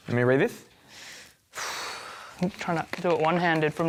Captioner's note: sighs